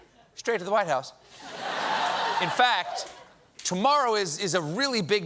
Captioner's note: laughter